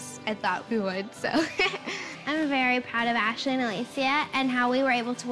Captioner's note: laughs